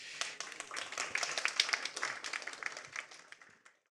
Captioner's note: audience applauding